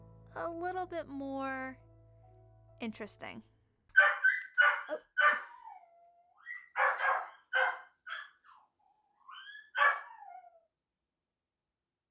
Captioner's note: excessive puppy complaints